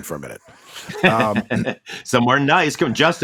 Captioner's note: Paul laughs